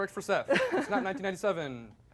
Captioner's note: laughing